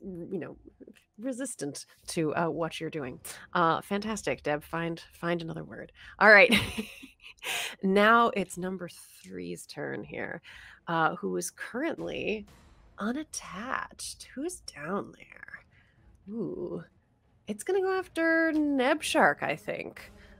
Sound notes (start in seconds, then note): 6.5 chuckles